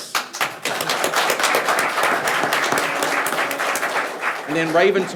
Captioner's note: people clapping